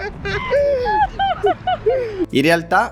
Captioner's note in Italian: Risate